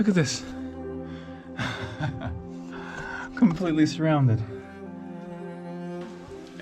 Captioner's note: laughs